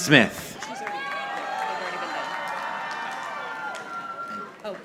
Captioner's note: audience applauding